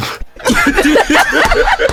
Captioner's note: laughter